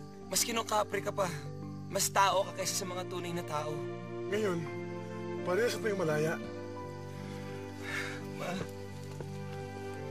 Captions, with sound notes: Even when you were still a Kapre, you were more human than real people. Now, we are both free. [sighs] Father.